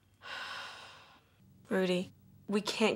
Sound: Kelly sighs

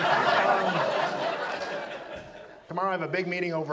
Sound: audience laughs

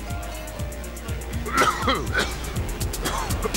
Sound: coughing

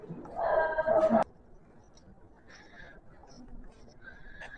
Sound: heavy breathing for some reason

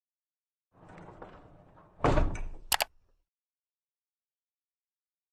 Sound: electronic tones and click

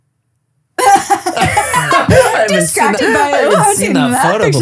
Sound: laughing

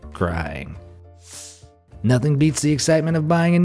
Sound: air whooshing

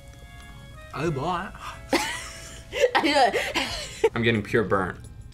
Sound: laughs

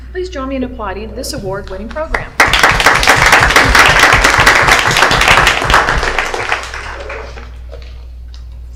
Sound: applause

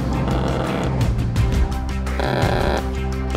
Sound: gun buzzing

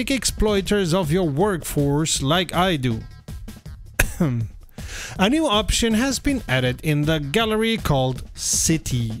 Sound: ahem

